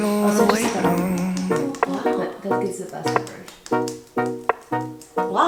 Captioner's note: relaxing music; slapping